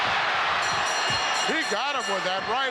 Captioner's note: bell ringing